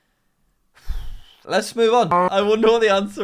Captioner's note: sighs